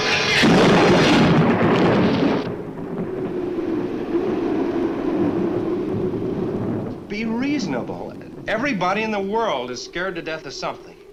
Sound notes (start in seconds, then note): 0.2 thunder claps; 3.2 wind howls